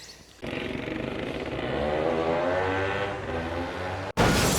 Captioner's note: 2-Stroke sounds